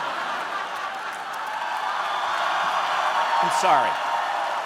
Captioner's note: audience clapping